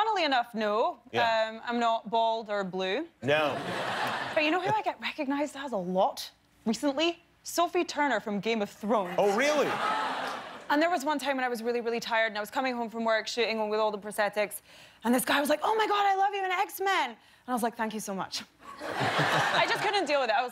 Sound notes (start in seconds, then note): 6.3 laughter